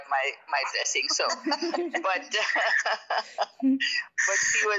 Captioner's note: laughing